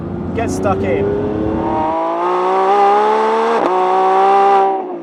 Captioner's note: car roaring loudly